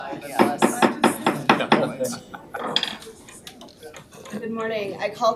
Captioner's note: gavel clacks